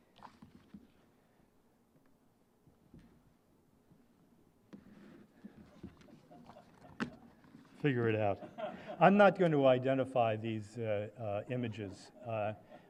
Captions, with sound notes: [LAUGHTER] Figure it out. I'm not gonna identify these images.